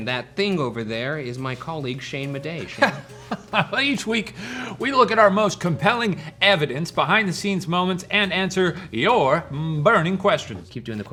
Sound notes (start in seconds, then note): 2.6 chuckles